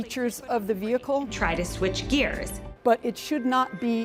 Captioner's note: automated voice in car